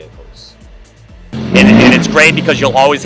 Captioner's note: car engine revving